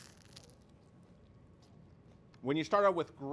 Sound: Crunch

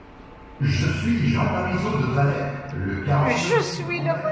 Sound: hologram speaking French

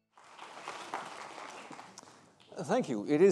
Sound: audience applauds

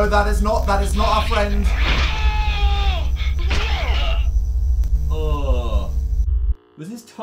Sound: various VHS noises and screams

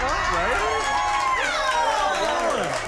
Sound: cheering

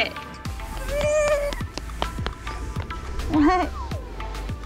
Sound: whimpering

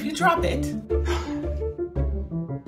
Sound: gasp

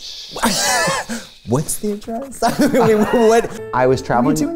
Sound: laughs

